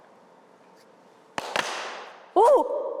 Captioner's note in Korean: 따닥